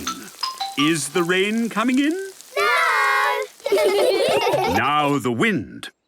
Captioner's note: laughter